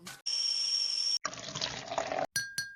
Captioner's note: kettle whistling; water pouring; china clinking